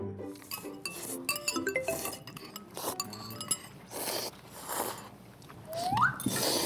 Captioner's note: all we hear here are eating noises